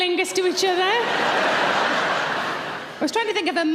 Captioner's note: audience laughing